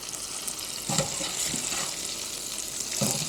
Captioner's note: water running